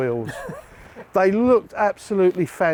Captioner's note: laughing